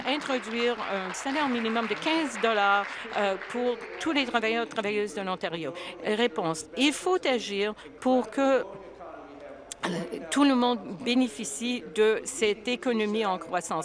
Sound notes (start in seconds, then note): 3.1 applause